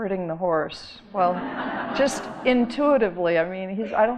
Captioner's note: audience laughing